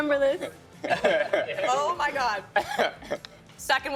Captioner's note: laughing